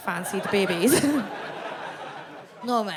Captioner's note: audience laughs